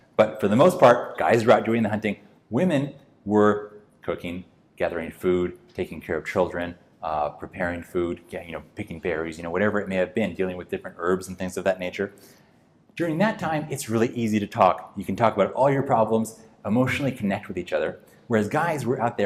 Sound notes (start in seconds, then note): none